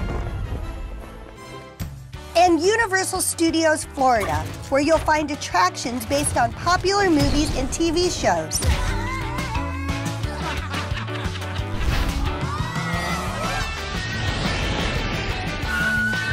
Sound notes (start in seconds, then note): 8.7 characters yelping; 10.2 audience laughing; 12.8 jaunty music; 14.6 fire roars